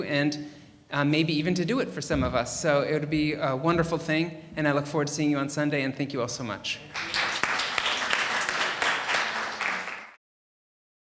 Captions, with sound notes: and maybe even to do it for some of us, so it would be a wonderful thing, and I look forward to seeing you on Sunday, and thank you all so much. (audience applauding)